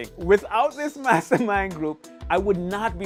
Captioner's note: laughs